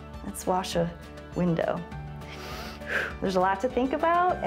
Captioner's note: inhales and exhales